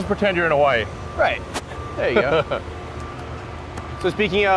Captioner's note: Elon chuckles